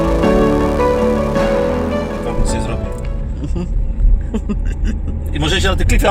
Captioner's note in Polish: śmiech